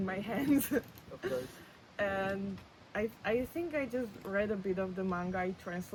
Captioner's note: laughs